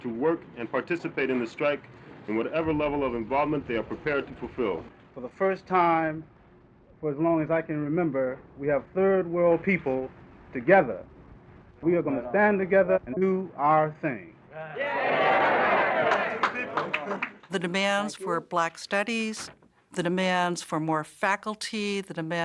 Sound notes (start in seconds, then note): 14.6 crowd cheering